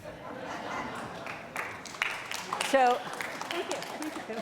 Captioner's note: audience laughing